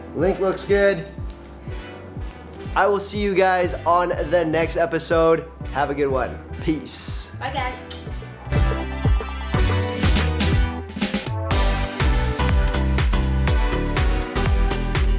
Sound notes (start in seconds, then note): 8.3 lips kissing; 9.7 gentle upbeat music